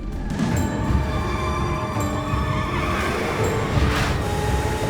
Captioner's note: car tires screeching